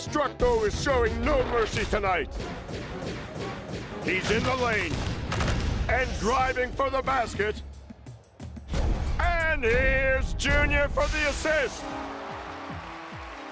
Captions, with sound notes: DESTRUCTO IS SHOWING NO MERCY TONIGHT. HE'S IN THE LANE... AND DRIVING FOR THE BASKET. AND HERE'S JUNIOR FOR THE ASSIST. (steam hisses)